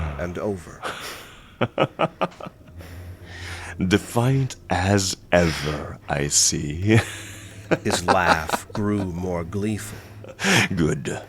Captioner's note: laughs